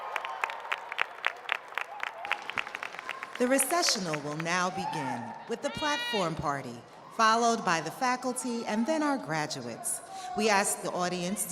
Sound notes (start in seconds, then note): 1.8 applause